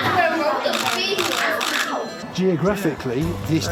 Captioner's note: camera clicking